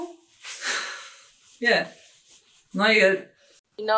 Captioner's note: chuckling